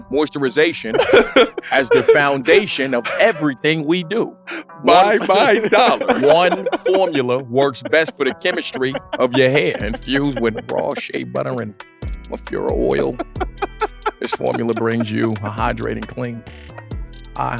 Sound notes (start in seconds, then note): 0.9 laughing; 5.7 laughs